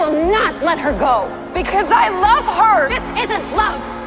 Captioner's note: voiceover; shouting